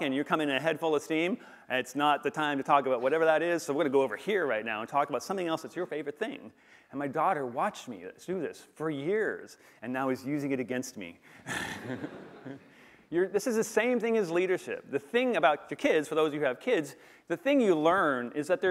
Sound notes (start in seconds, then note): 11.4 laughter